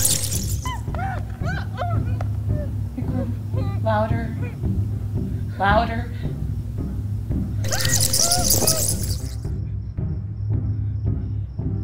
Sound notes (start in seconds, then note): 1.0 yelling; 7.6 bats Screeching